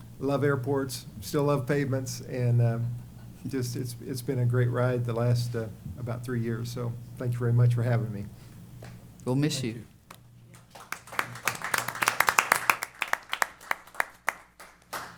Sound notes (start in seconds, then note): 10.5 applause